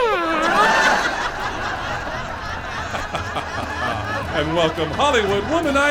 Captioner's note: audience laughs uncontrollably